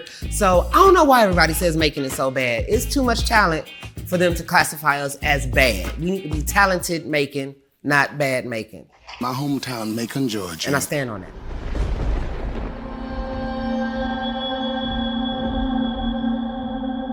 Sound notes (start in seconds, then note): 11.2 thunder crashing; 14.1 eerie music